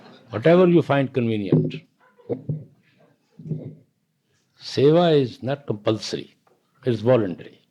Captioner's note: laughter; more laughter